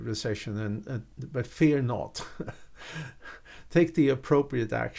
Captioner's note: chuckles